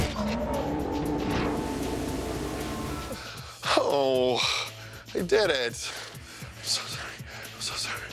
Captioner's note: groaning